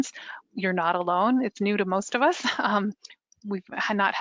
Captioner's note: laughs